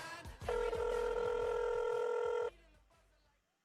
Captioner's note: phone ring